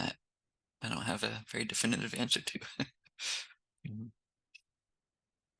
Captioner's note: chuckles